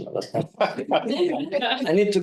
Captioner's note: group laughing